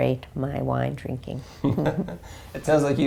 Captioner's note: laugh